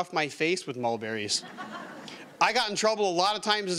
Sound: audience laughing

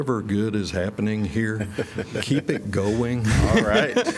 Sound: laughter

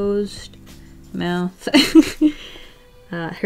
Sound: laughs

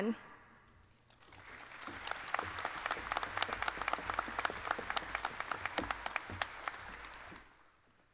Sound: applause

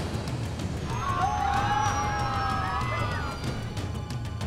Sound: passengers screaming; suspenseful music

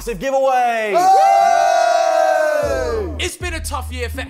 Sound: cheering

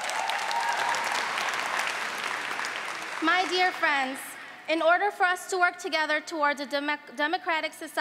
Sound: applause

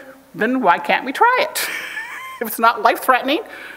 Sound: chuckles

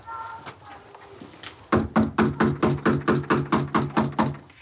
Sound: knocking

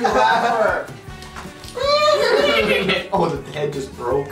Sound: neighs

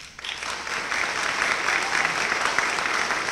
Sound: applause

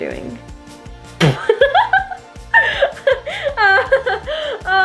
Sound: laughing

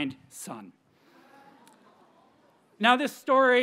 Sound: audience members cheer

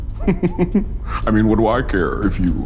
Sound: chuckles

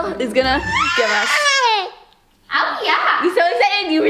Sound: baby shrieks

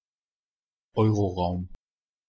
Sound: fast Pronunciation

